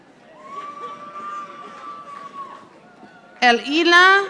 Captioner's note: audience applauding